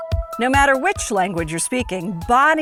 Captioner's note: voiceover